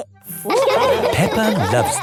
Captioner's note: all laughing